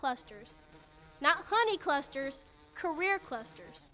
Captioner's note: bee buzzing